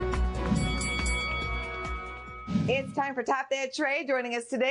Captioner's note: bell rings